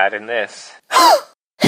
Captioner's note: gasp